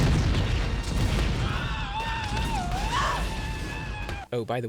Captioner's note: comedy screaming